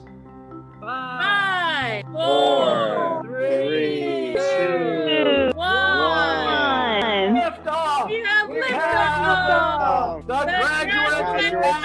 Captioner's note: cheerful applause